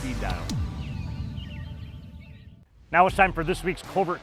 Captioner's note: birds chirping